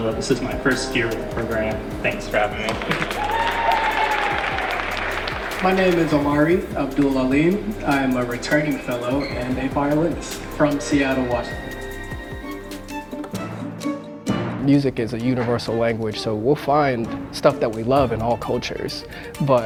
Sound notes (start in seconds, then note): 3.6 audience cheering and applauding; 12.7 bright music